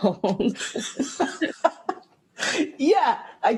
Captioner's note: laughter